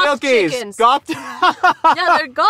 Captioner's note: laughs